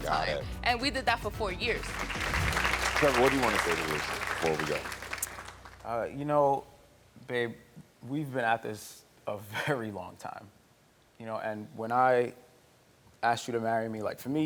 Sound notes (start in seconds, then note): 1.7 audience applauding